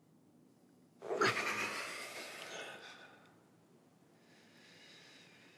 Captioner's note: Jimmy breathes deeply